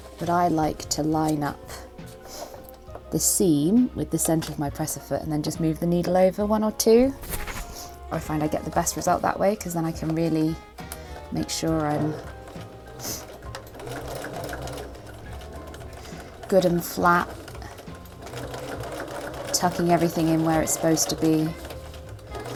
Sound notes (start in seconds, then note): 15.4 sewing